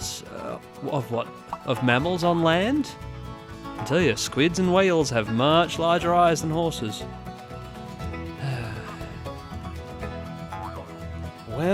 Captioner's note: sigh